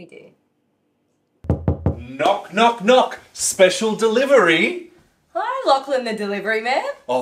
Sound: knock* *knock* *knock

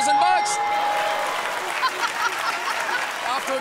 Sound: cheers and applause

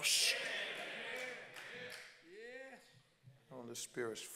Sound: congregants call out

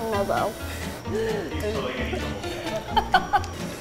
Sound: laughing

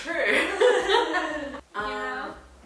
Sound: both laughing

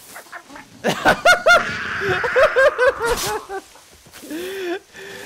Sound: laughs

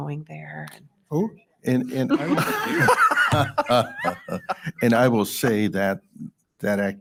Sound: board members laugh

